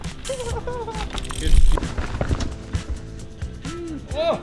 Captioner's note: giggling; lively music